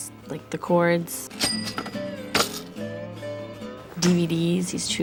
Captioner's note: cash register rings